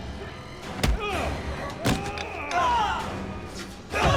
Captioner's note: dramatic music; men shout